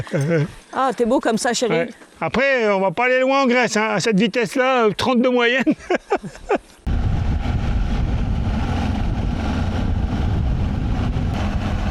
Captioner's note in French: rires; rires